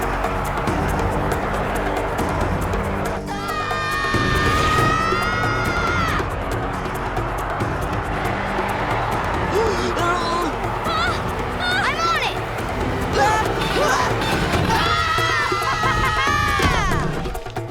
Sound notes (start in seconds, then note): 3.5 screaming; 9.3 grunting; 10.6 screaming; 14.4 screaming